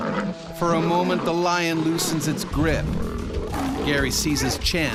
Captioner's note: voiceover